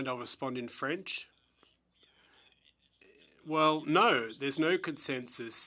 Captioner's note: speaking French